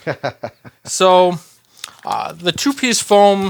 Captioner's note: laughs